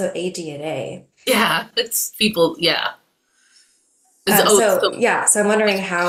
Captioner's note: overlapping chatter